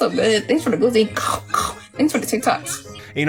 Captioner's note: imitating munching sound